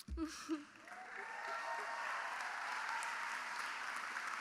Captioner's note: cheering